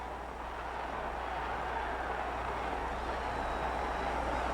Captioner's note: crowd cheers